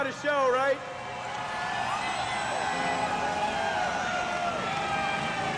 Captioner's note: crowd cheering